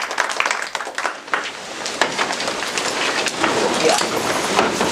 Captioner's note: applause; people shuffling